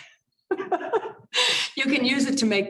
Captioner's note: laughter